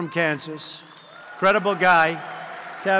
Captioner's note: applause